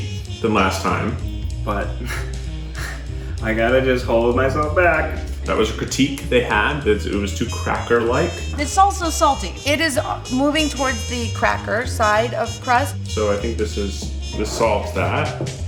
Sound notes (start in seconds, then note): 4.2 laughing